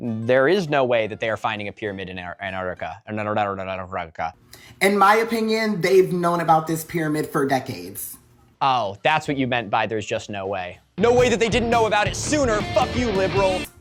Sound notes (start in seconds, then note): 3.2 Kakyoin eating cherry sounds; 11.0 guitar shredding